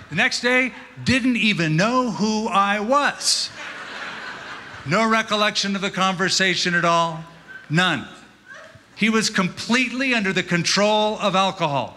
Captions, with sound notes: The next day, didn't even know who I was. [LAUGHTER] No recollection of the conversation at all. None. He was completely under the control of alcohol.